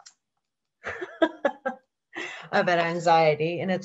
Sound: laughs

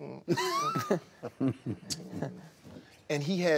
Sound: chuckling

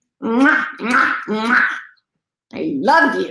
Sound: kisses

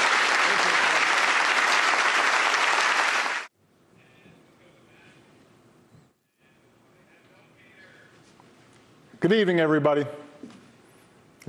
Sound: applause

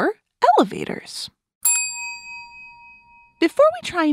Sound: elevator door’s ding

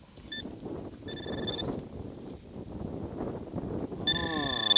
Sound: pointer pings

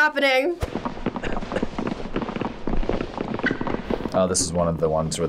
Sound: feet tapping

